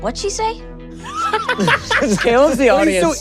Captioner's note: Gaten laughs